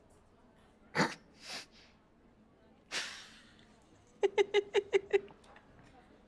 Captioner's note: laughs